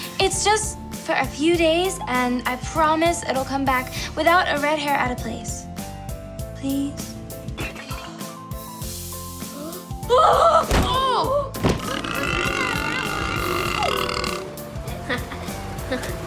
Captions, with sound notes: It's just for a few days and I promise it'll come back without a red hair out of place. Please. [screaming] [crashing] [burping] [laughing]